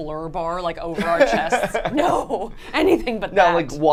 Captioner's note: laughs